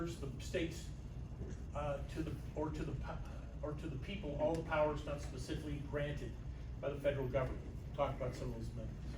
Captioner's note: stammers